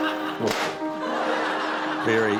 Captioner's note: pop!; laughter